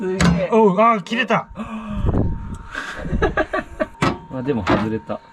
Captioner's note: laugh